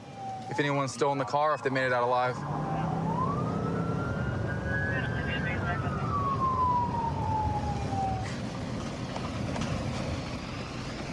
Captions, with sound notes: if anyone's still in the car, if they made it out alive. [police sirens blaring] [dispatch chatter]